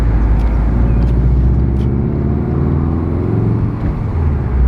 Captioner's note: boxer Engine grow